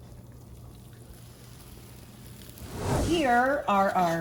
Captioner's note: griddle sizzling